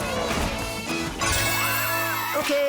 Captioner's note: cheering